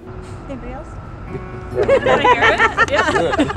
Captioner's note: laughs